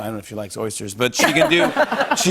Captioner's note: laughter